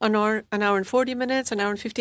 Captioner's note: speaking French